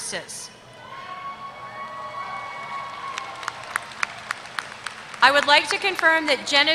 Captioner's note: applause